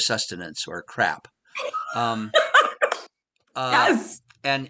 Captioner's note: laughs